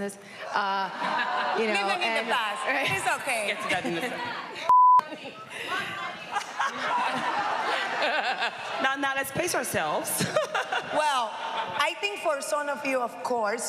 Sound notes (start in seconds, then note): 6.0 laughing